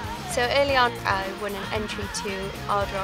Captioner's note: none